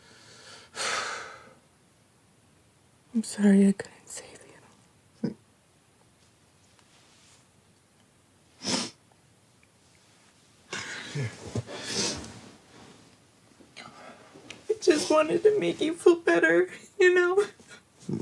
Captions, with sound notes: (Lance inhales and exhales) - I'm sorry I couldn't save you. (Megan sobbing) - Here. - I just wanted to make you feel better. You know?